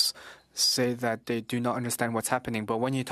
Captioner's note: speaking French